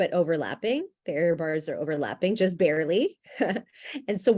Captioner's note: chuckles